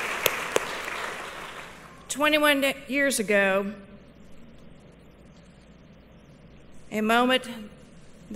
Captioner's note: applause